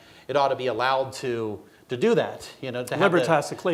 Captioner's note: speaking in foreign language